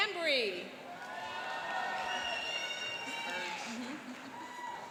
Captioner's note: cheering and applauding